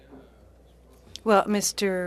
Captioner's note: speaking French